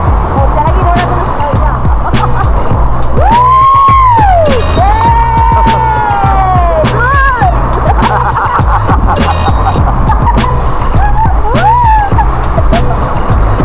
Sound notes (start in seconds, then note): 3.2 cheer; 7.1 laugh